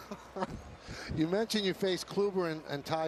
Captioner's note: laughter